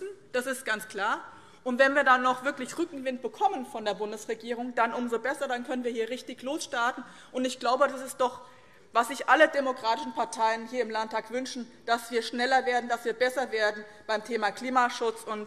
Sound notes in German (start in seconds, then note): none